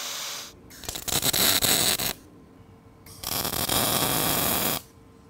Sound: welding electrode sparking

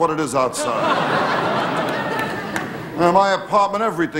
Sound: audience laughing

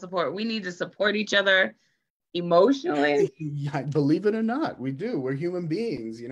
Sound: laughs

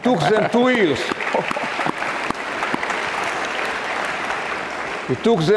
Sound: audience clapping

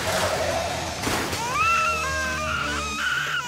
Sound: loud crash; wailing

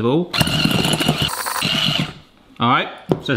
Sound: motor whines

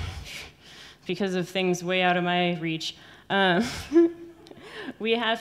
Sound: laughs

